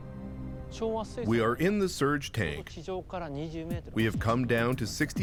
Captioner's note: speaking Japanese